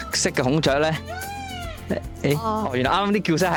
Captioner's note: peacock cry